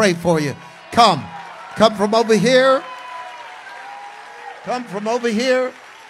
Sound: congregation cheers

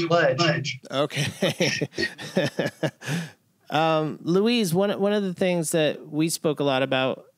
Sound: laughter

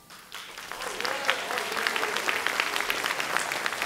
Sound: audience clapping

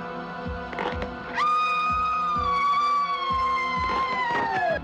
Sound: screaming

